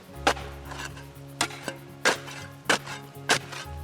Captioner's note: digging sound